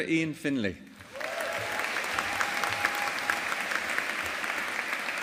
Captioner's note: audience applauding